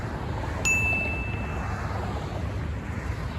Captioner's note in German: Ding